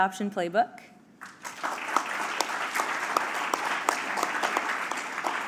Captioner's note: applause